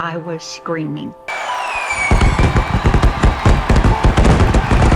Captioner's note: fireworks booming